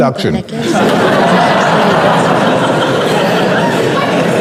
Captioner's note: crowd laughing